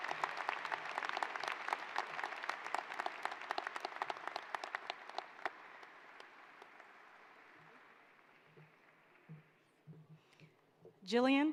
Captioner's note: applause